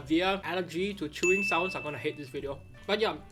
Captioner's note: graphic chimes